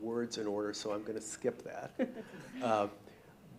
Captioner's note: laughing